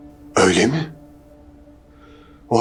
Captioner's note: surprised